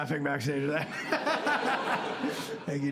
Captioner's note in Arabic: يضحك